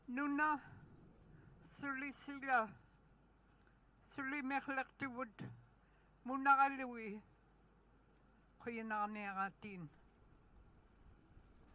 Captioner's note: speaking in native tongue